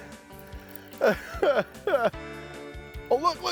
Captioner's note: laughs